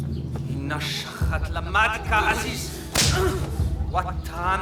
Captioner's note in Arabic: الصوت المنطوق البدوي